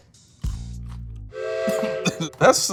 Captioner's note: train horn whistling